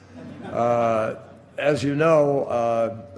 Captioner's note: laughter